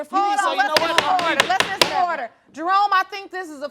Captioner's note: banging gavel